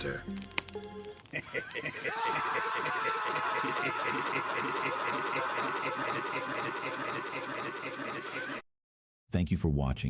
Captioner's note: maniacal Laughter; screaming